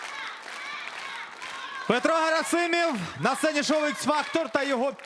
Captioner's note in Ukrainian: оплески